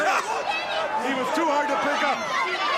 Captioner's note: crowd chatter